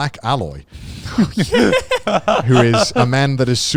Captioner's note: group laughing